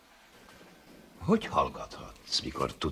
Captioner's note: whispers